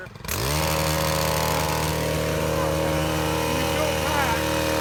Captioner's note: machine whirring